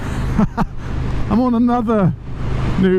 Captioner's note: laughs